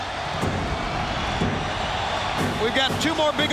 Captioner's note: crowd cheering